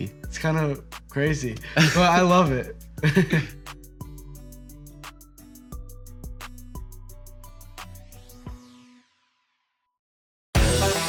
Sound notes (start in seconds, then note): 3.0 boys laughing; 4.1 calm music